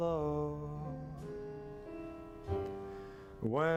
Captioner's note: humming along